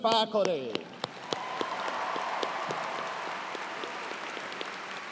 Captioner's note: cheers and applause